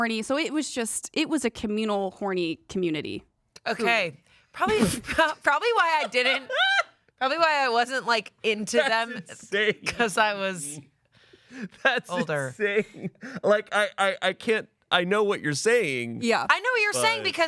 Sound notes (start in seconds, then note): 5.6 laughs